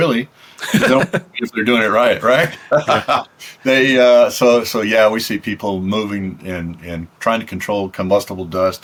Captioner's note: laughs